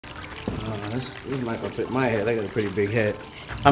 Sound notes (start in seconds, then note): 0.0 running water